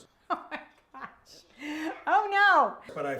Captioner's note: laughs